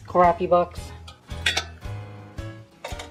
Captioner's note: clink